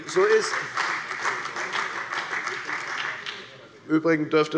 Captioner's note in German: Beifall bei der FDP und bei Abgeordneten der SPD